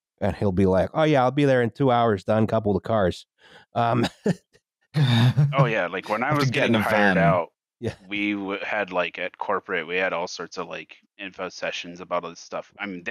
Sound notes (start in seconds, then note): 3.8 laughter